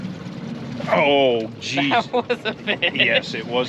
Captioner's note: chuckling